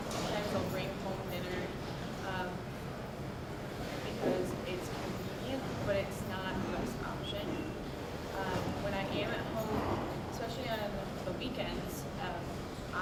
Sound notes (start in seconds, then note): none